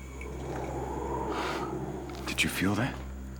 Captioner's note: wind howling